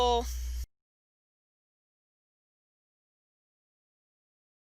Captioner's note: silence